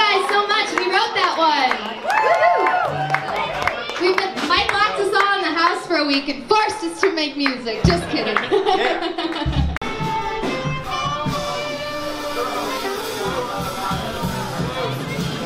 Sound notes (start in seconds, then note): 7.6 laughs; 10.0 snazzy music